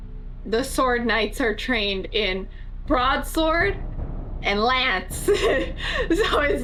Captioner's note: laughs